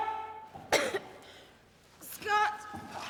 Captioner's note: coughs